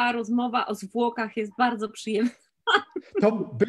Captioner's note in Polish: śmiech